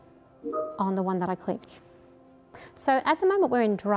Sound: beep

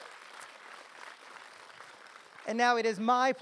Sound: audience applause

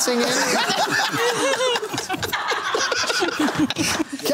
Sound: laughter

